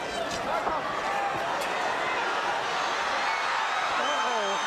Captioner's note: crowd cheering